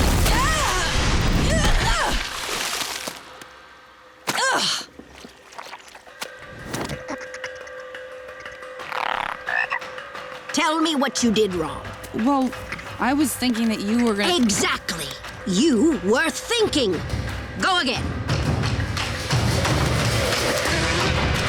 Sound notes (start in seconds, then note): 0.2 grunting; 9.0 croaking